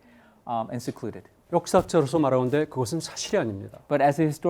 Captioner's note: speaking in Korean